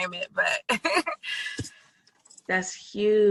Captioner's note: laughs